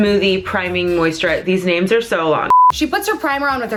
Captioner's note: beeping